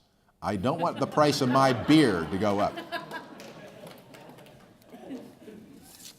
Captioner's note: laughs